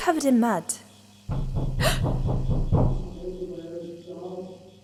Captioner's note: knocking from inside the transfer pod